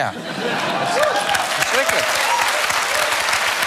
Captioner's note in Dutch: applaus